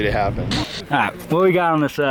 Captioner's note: static